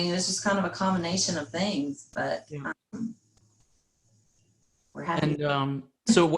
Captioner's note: faintly speaking